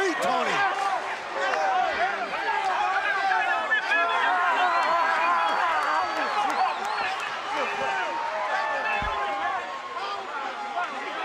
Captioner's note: crowd chatter